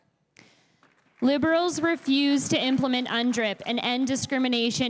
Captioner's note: crowd applauding